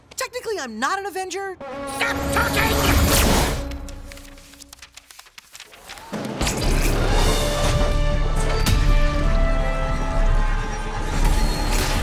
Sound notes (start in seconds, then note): 3.6 pages flipping; 6.0 mechanical whirring